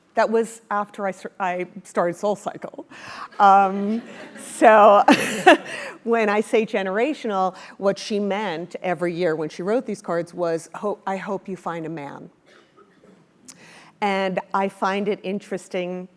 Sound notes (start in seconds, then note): 3.2 laugh